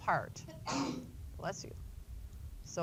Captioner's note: student sneezes